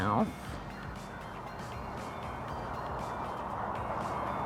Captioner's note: cars rumbling